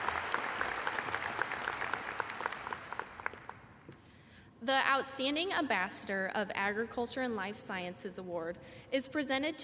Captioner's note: applause